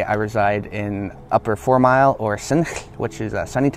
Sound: speaking Native language

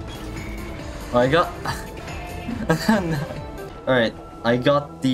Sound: laughs

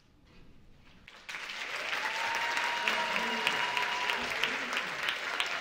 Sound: applause

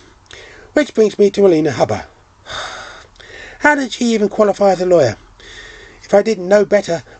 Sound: sighs

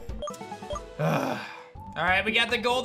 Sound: grunts

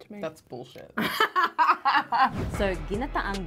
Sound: laughing

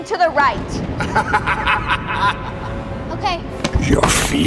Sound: sinister laughter

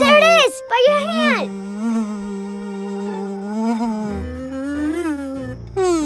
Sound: buzzing

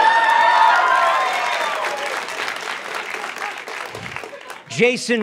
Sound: audience cheers

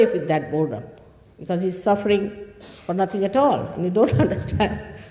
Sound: laughs

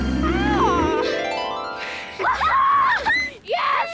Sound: squawks; cheering

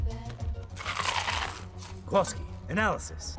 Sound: chips crunch

